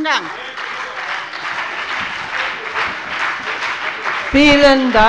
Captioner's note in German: Beifall bei der FDP, der SPD und der LINKEN - Zurufe von der CDU